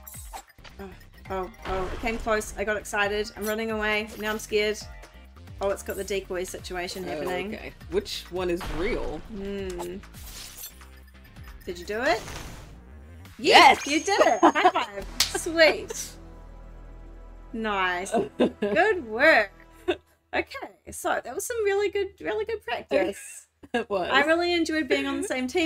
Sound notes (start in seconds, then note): 15.1 slap